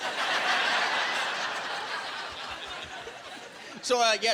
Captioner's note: laughing